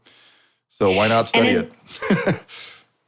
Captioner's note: chuckle